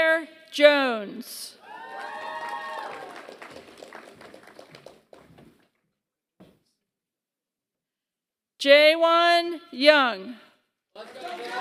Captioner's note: applause; applause